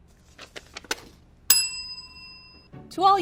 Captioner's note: bell rings